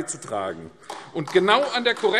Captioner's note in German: Beifall AfD